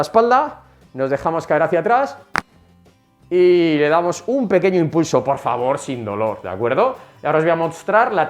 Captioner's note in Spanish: crack